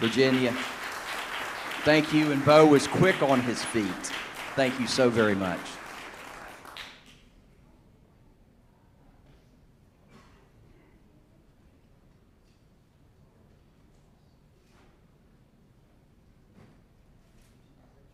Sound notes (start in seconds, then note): 2.0 applause